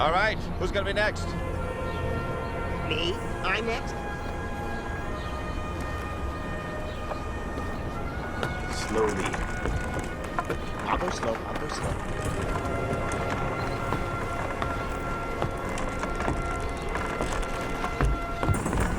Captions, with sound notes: All right. Who's going to be next? - Me? I'm next? - Slowly. - I'll go slow. I'll go slow. (footsteps) (wood creaking)